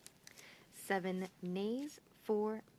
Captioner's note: speaking French